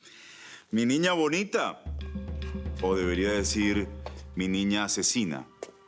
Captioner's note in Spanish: Suena el celular